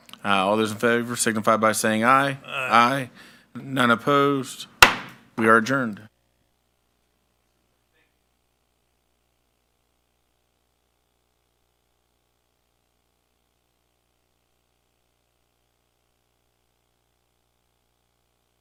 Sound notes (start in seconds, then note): 4.8 gavel bangs